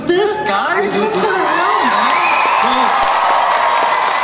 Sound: crowd cheers

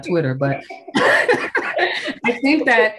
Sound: all laughing

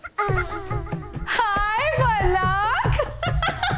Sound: fake excitement

